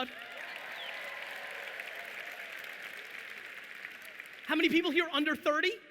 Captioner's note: audience applauding